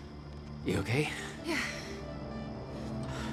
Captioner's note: catching her breath